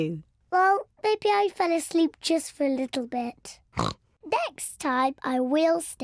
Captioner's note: oinks